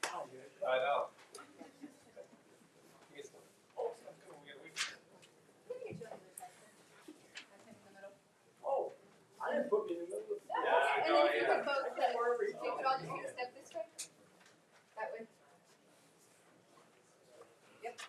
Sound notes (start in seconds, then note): 3.2 speaking faintly; 7.6 speaks faintly